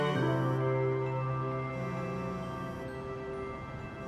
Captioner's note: phone buzzing